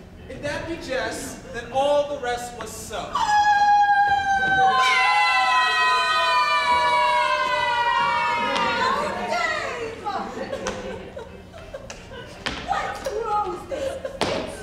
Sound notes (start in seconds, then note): 3.1 Bianca screams; 5.1 group screaming; 10.7 Bianca crying